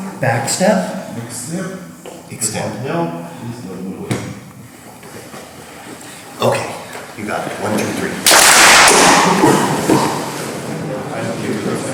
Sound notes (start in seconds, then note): 0.0 speaking in a foreign language; 8.2 clap